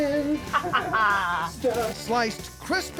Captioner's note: laughter